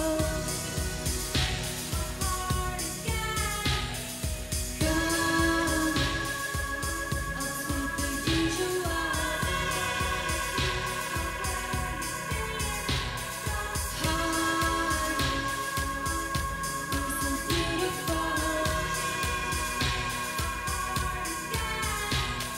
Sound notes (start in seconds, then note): 10.6 reverberating